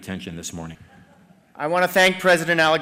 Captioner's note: laughter